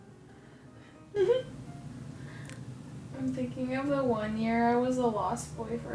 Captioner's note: chuckles